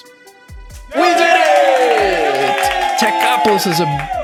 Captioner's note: cheers